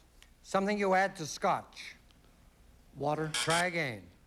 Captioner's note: buzz buzz